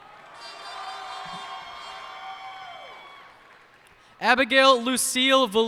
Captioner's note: cheers and applause